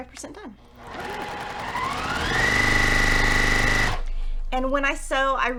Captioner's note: sewing machine rattling